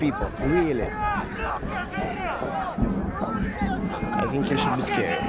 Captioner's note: men shouting in foreign language